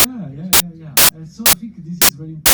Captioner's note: audio distortion